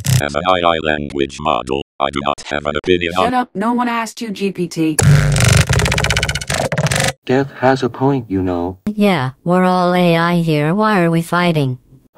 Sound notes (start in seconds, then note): 5.0 Geth Noises